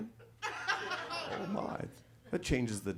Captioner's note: audience laughs